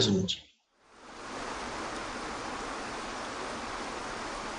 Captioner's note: water flowing